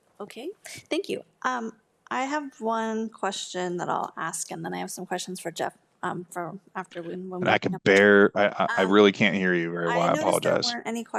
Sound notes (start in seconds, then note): 7.1 speaks faintly